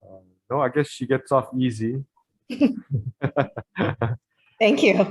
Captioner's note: laughs